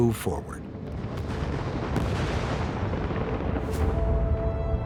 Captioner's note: booming